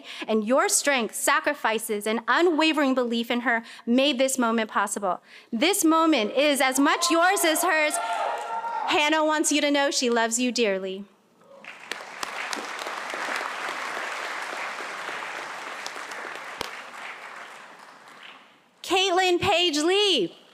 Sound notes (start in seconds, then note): 11.6 applause